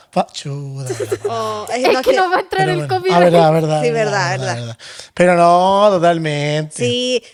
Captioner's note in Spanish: risas